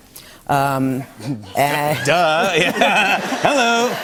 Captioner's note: laughter